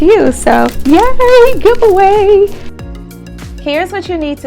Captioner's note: hands clap